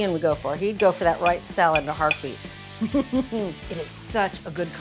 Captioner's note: chuckles